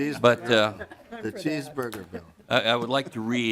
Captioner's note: laughter